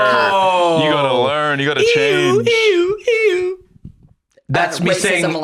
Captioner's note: making siren noises